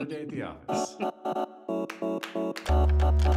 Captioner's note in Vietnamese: cười